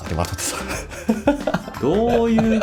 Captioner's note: laughs